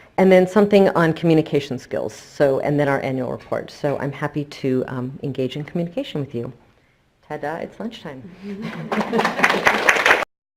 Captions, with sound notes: And then something on communication skills. So, and then our annual report. So I'm happy to engage in communication with you. Ta-da it's lunch time. (chuckles happily) (crowd claps loudly)